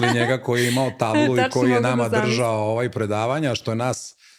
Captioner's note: laughter